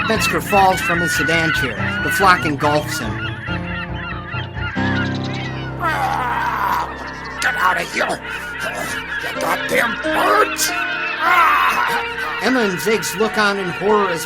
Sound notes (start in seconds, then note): 5.8 Bob groaning; 11.5 Bob groaning